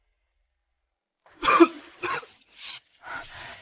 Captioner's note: cough, cough, cough